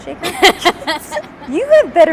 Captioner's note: laughs